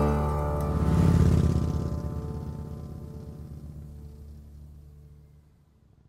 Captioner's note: motorcycle engine roars